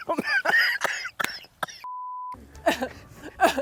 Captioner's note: both laughing; beep; coughing